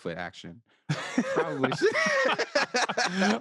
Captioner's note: both laugh